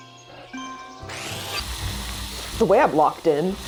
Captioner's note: whirring